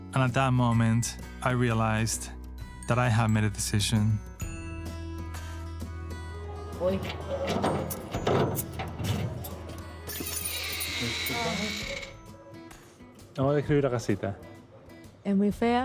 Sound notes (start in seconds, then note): 8.0 speaking Spanish; 9.5 soundbite of door creaking; 12.4 speaking Spanish